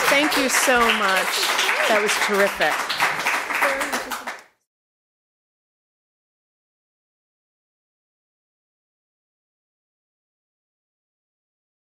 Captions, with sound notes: Thank you so much. That was terrific. [APPLAUSE]